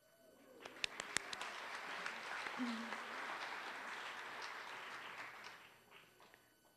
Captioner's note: applause